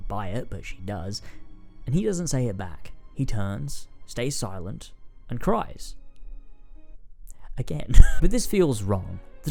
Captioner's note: laughs